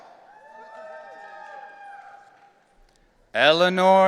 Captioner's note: audience cheering